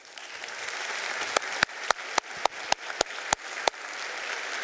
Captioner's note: audience applauding